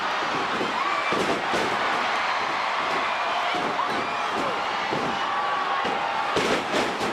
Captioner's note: crowd chattering; stage clattering